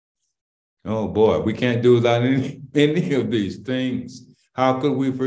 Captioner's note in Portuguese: Risos